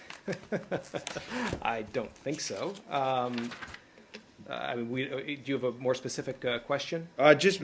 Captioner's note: laughter